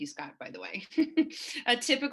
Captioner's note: laughs